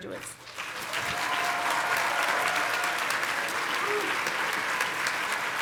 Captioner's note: congregation clapping